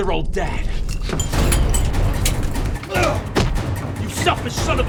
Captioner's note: watch falls on floor; punch connects